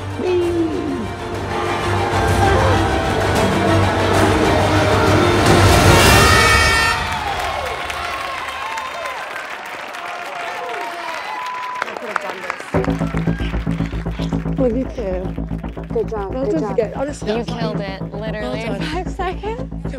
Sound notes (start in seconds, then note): 6.0 air horn blaring; 7.9 cheering